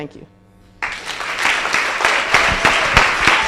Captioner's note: applause